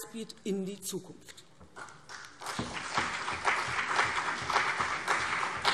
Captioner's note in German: Beifall CDU und BÜNDNIS 90/DIE GRÜNEN